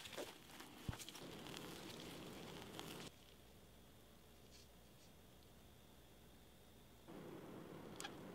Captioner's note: crushing the air bubbles